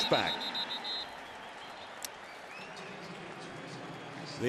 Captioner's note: whistle; pa announcement